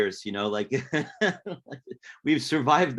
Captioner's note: laughs